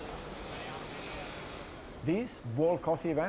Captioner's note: people chattering